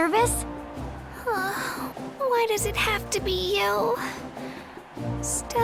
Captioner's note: sigh